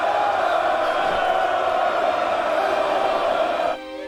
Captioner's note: crowd cheering